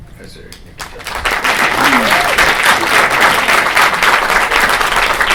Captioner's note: applause